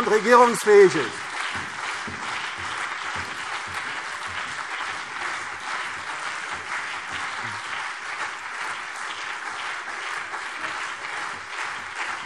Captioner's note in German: Anhaltender lebhafter Beifall CDU und BÜNDNIS 90/DIE GRÜNEN